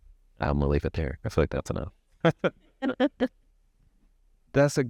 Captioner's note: chuckles